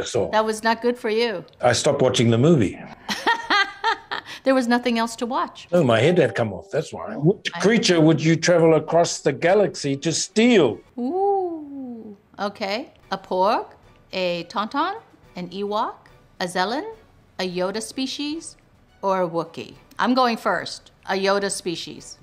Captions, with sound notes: - That was not good for you. - I stopped watching the movie. (Ming-Na laughs) - There was nothing else to watch. - Oh, my head had come off, that's why. "Which creature would you travel across the galaxy to steal?" - Ooh. Okay, a Porg, a Tauntaun, an Ewok, Anzellan, Okay, a Porg, a Tauntaun, an Ewok, Anzellan, a Yoda species, or a Wookie. a Yoda species, or a Wookie. I'm going first. A Yoda species.